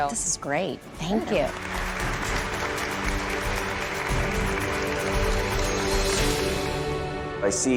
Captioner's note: applause